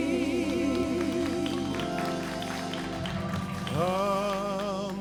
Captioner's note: audience applauds